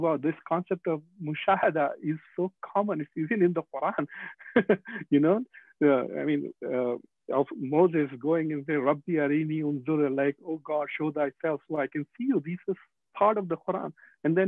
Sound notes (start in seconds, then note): 4.0 laughing